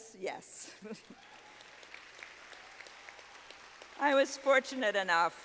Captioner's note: students applauding